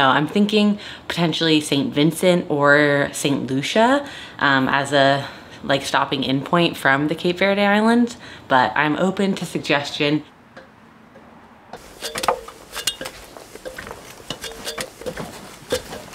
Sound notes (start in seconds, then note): 11.7 footsteps